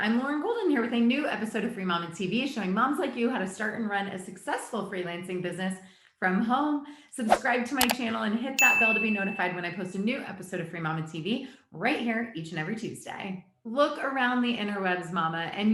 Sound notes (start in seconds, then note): 7.8 mouse clicks; 8.6 bell chimes